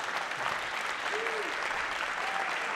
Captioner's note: applause